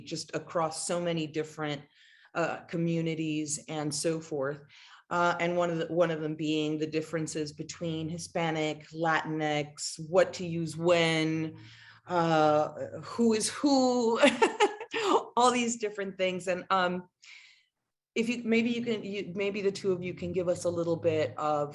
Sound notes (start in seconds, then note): 12.9 laughs